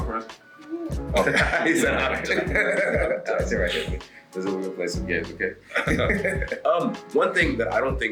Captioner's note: laugh